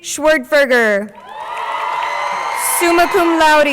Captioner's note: crowd cheering